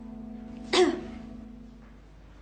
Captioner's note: coughs